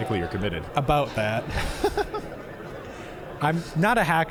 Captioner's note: both laughing